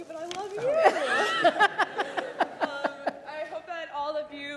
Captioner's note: laughing